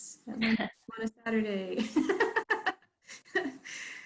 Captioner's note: laughs